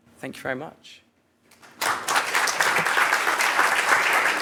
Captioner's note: applause